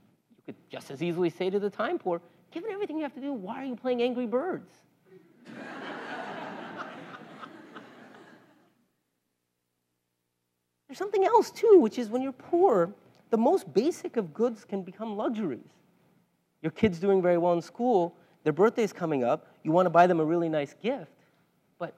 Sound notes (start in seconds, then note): 5.4 laugh